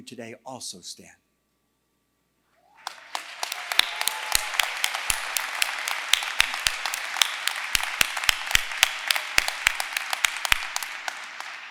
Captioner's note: applause